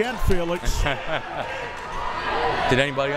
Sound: laughing

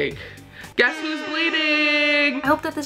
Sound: party horn blows

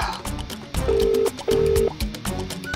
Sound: phone ringing

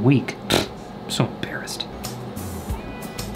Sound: blows raspberry

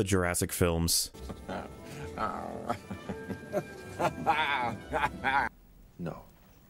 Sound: Jeff Goldblum laugh

